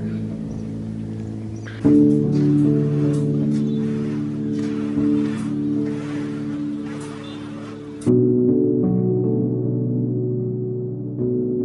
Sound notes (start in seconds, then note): 0.0 soft Piano Music Playing; 1.6 walking footsteps